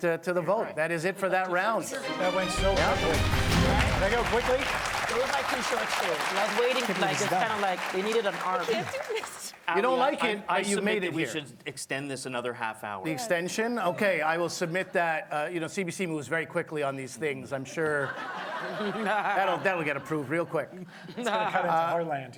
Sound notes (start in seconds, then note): 9.7 applause